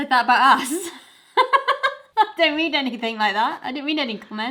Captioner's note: laughter